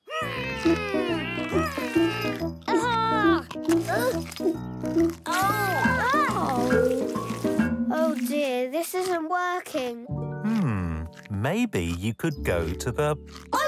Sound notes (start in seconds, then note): 0.1 groaning; 1.4 straining